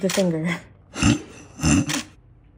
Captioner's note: snorting